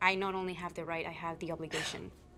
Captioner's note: Louisa scoffs